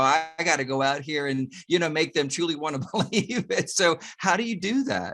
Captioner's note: chuckles